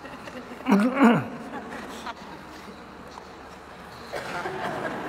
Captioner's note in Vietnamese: tiếng cười